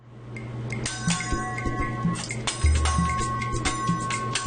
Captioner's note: spatulas clanging